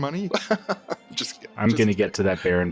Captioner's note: patronizing laughter